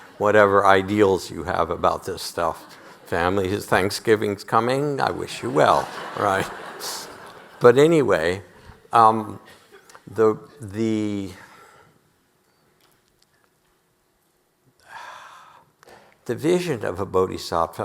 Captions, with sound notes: whatever ideals you have about this stuff. Family. Thanksgiving's coming. I wish you well, right? (audience laughing) But anyway, the... the vision of a bodhisattva,